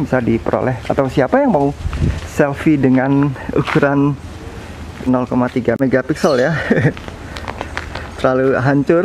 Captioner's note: chuckle